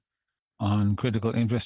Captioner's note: speaking French